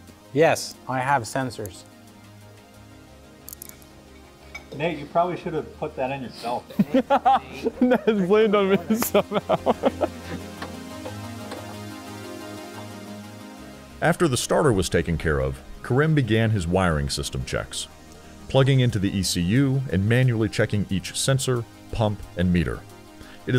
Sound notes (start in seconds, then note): 6.6 laughing; 13.7 voiceover